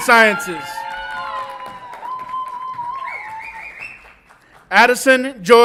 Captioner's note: audience applauds and cheers